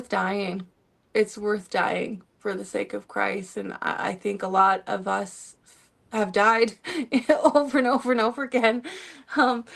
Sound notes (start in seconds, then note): 6.8 laughter